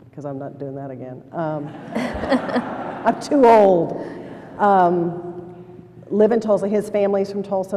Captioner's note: laughter